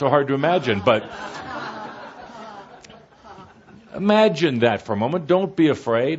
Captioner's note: laughter